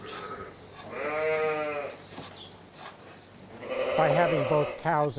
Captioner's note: sheep bleating